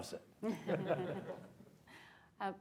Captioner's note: laughter